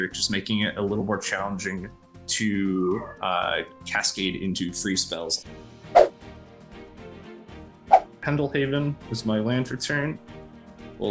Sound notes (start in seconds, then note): 5.4 dramatic music; 5.9 air whooshing; 7.9 air whooshing